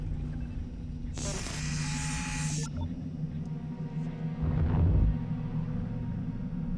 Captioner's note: static hisses